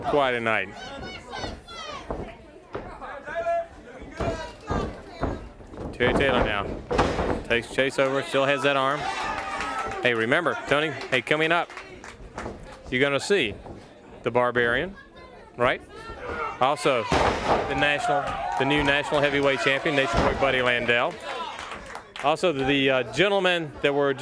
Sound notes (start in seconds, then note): 4.1 crowd chatter; 7.9 crowd chatter